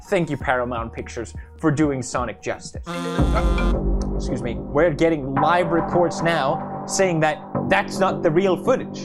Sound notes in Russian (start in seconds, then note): 2.8 бззз